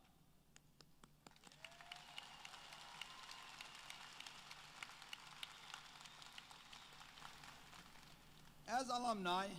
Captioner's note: applause